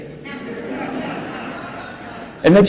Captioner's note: audience laughs